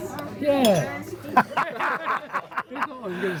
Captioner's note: laughing